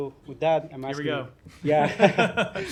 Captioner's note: laughter